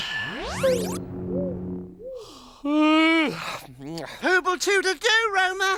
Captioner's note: soft zap; Groove yawns